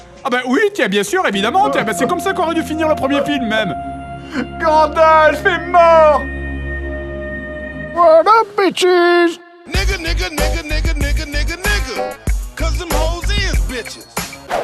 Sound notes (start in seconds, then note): 4.2 Frodo weeps